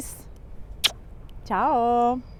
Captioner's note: kissing sound